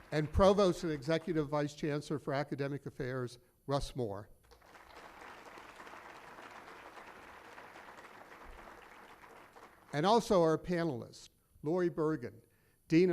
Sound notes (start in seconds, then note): 4.4 applause